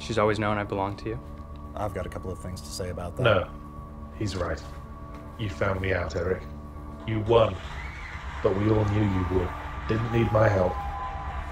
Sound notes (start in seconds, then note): 3.5 voiceover